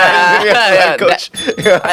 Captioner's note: ring ring ring